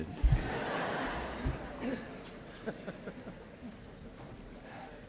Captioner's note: audience laughing